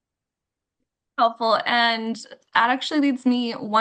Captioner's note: back to English